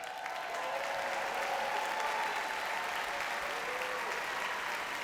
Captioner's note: audience cheers and applauds